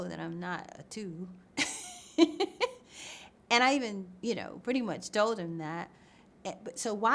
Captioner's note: laughs